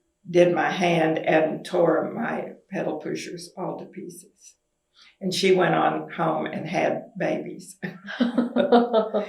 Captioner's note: laughter